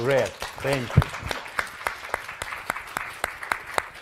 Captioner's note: all applauding